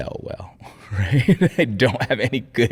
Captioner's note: laughing; chuckling